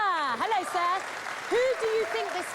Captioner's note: cheers and applause